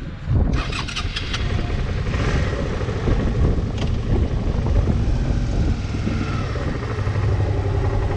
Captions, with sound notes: [motorcycle engine start, placed in gear] Leaving U.S. Border Patrol Immigration Checkpoint, Arizona State Route 85 North, Why, AZ